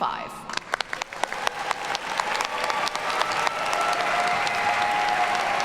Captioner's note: audience cheers and applauds